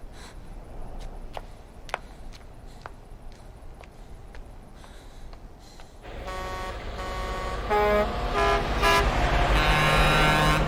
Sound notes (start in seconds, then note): 6.0 horns honking